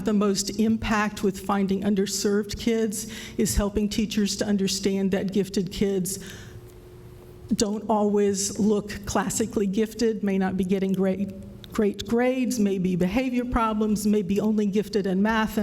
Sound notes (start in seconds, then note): none